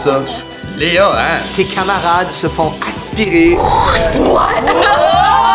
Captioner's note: sound of wind